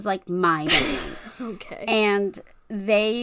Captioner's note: laughs